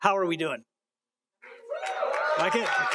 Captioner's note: applause